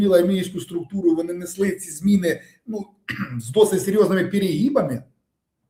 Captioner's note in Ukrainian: прочищення горла